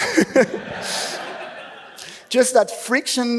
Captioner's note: laughs